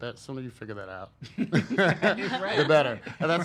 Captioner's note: laugh